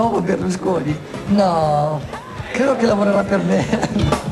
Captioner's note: laughter